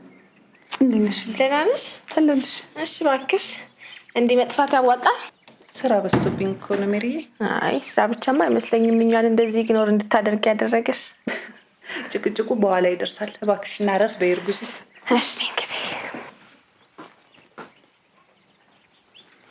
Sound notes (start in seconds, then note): 11.2 laughs